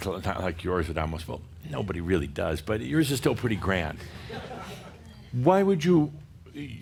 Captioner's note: a few chuckles